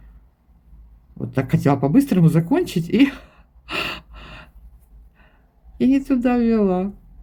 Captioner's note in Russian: тяжелое дыхание; тяжело вздыхает